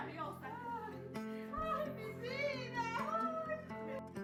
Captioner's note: in foreign language